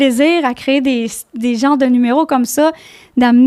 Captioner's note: in french